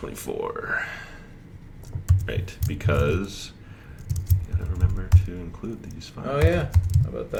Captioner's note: sighs